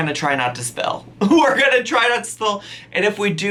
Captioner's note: laughs